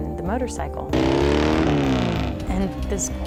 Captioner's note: motorcycle revs